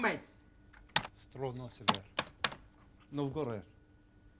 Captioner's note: man speaks unknown foreign language